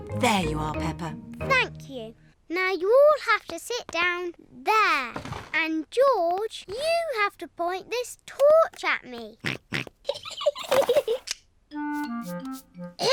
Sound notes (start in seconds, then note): 9.5 snorts; 10.0 giggling